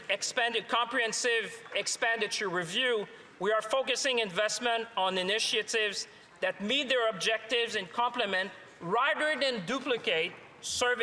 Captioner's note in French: voix de l'interprète